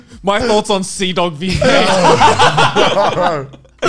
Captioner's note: laughing